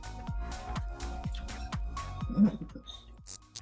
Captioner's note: soft chuckles